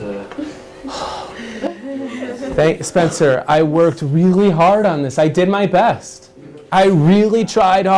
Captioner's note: big sigh from teacher